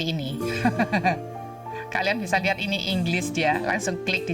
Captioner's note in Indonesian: tertawa